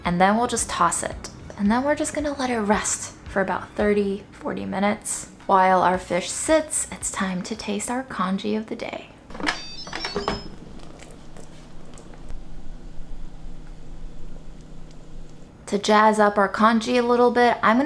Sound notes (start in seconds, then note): 9.3 Instant Pot chiming; 14.9 water bubbling